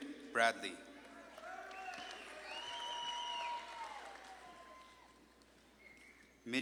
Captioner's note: audience claps and cheers